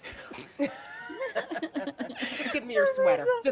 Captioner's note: people laughing